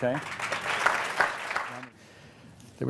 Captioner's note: applause